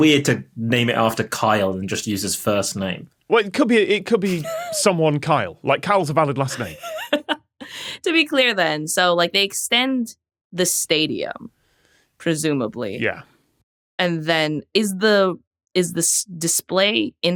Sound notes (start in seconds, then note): 6.5 laughs